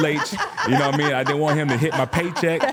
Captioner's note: laughing